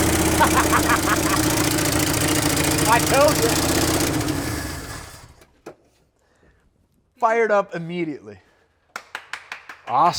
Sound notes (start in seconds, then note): 0.3 laughs; 8.9 person applauds